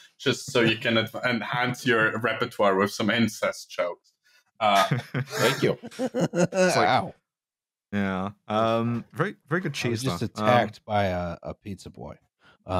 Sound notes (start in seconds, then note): 4.6 laughing